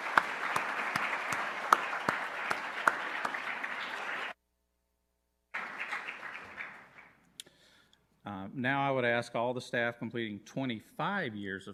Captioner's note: applause